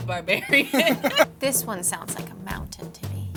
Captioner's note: laughs